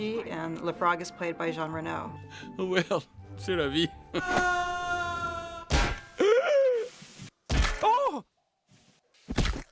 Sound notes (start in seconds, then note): 4.2 screams